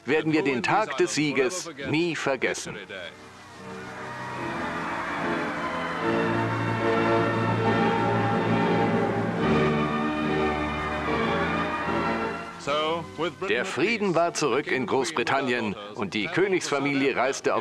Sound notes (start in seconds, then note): 3.4 crowds cheering; 7.7 triumphant music